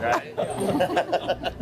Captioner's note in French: rires